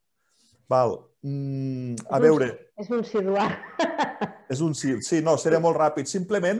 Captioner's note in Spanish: risas